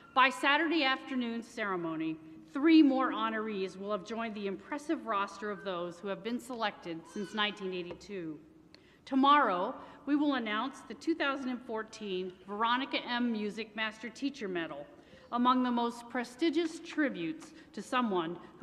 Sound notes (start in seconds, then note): none